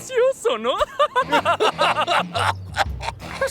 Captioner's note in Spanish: Ambos ríen